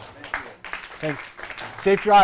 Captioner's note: applause